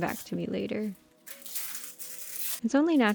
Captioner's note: paper ripping pleasantly